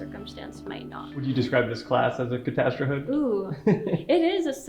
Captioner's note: chuckles